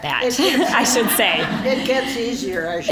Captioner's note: audience laughing